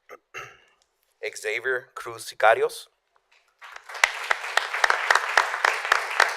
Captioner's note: applause